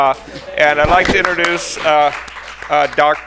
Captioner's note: attendees applaud